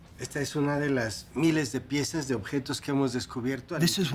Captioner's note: speaking Spanish